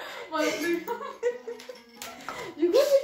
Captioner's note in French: Petits rires